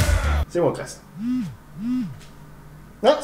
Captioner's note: vibration